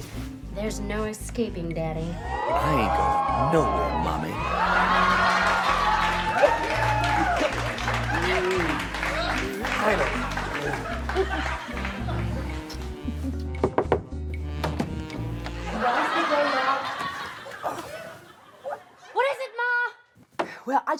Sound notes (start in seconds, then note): 5.2 audience cheers; 13.6 knocks; 16.3 Iris murmurs through door